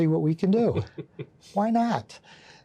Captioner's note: chuckling